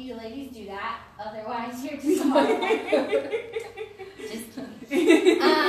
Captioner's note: laughs